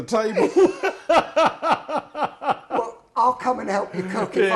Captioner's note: laughing